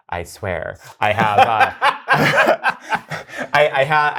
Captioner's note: guy laughs